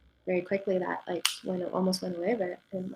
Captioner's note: finger clicks